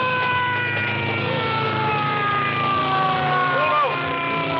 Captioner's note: screaming